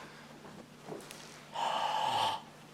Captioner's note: breathes out